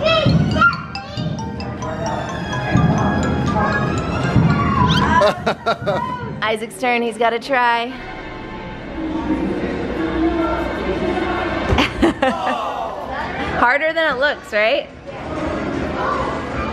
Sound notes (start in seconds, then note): 4.9 laughs; 7.9 suspenseful music; 11.7 laughs